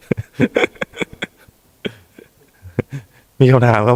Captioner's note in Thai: เสียงหัวเราะ